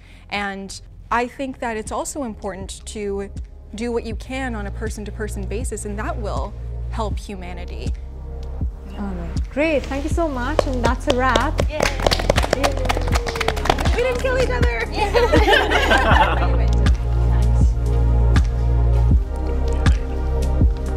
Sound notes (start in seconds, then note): 11.7 clapping; 12.9 people laughing; 17.2 soft instrumental music